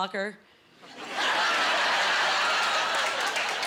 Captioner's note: laughing